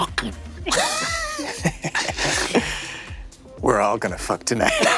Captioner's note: Zac chuckles